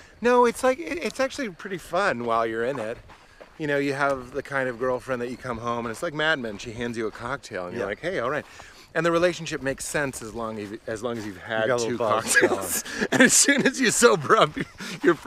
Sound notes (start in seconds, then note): 11.7 laughs